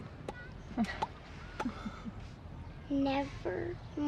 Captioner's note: both laughing